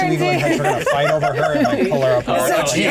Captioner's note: laughter